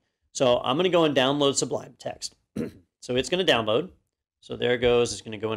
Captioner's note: cough